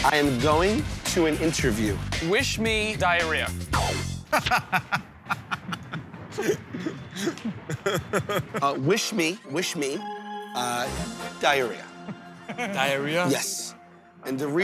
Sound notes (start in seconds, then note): 4.3 laughs